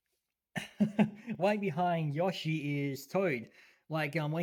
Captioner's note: laughs